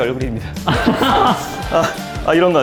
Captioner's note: haha